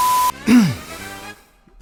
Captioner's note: clears throat